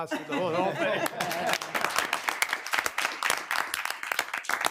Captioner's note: attendees clapping